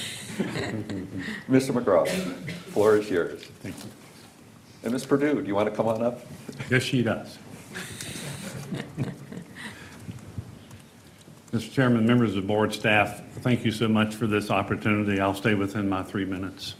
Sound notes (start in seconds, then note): 2.5 laughter